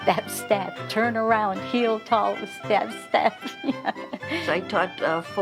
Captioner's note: laughing